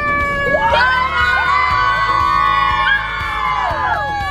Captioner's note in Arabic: صراخ الأطفال